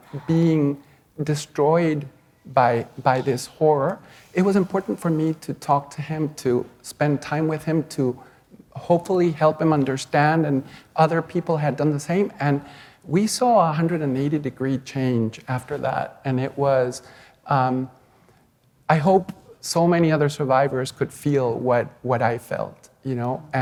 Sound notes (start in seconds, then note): none